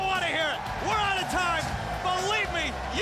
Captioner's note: crowd cheering